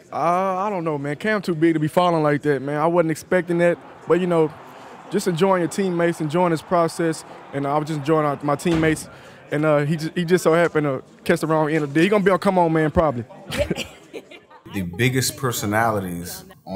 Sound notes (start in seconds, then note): 13.4 both laugh